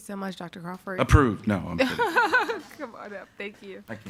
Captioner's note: laughing